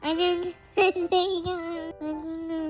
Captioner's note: giggles